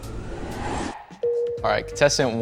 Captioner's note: high tone chimes